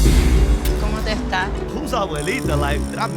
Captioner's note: speaking Spanish